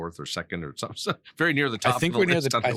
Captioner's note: laughing